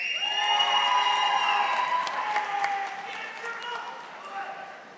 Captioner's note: audience applauding